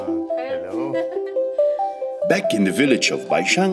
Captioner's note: laughing